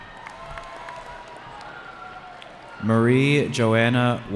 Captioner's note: cheering